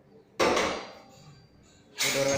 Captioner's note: sound of mechanism